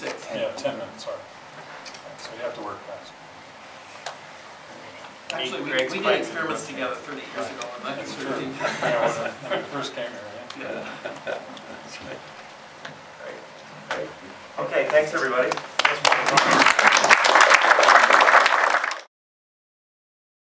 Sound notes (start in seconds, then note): 0.3 voiceover; 5.6 voiceover; 9.4 voiceover; 13.3 laughter; 15.4 applause